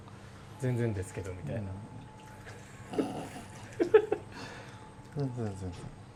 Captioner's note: laughs